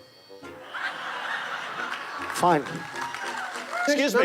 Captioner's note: crowd laughing